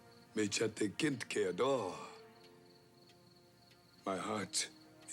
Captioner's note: Tukenbheska speaks Indigenous language